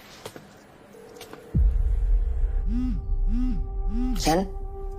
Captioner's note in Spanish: Vibra el celular